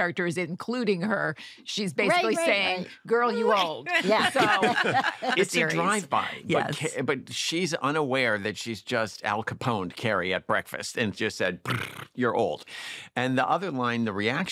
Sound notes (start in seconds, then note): 4.1 all laughing; 11.6 rolls tongue